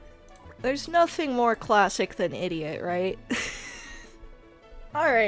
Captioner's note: wheeze